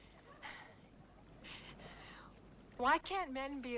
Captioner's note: Hundra sighs